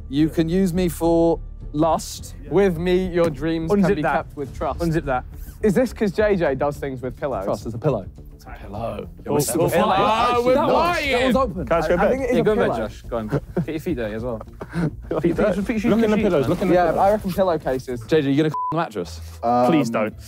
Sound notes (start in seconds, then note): 9.6 group exclaiming